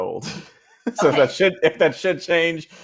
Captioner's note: laughing